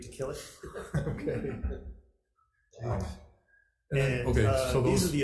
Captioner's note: group chuckles